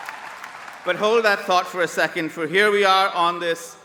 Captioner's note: applause